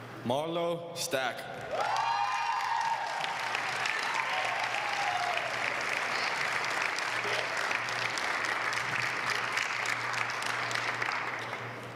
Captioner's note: applause